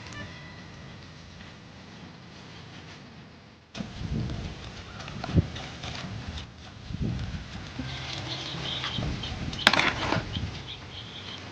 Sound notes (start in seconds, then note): 3.2 metal clanking